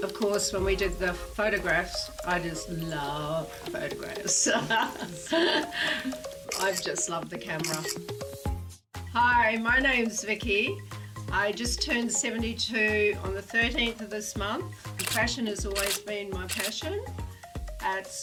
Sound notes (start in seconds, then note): 4.2 laughs; 7.6 camera clicking